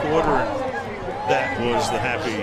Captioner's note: pa announcement